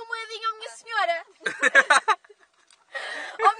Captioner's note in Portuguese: Risos